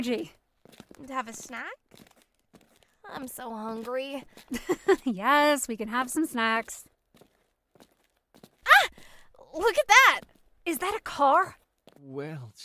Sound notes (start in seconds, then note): 4.5 giggles